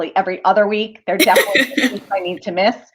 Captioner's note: laughter